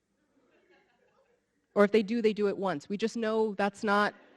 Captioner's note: audience laughing